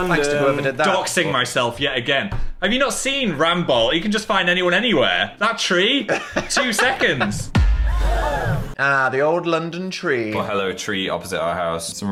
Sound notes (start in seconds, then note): 6.0 laughs; 7.8 people gasp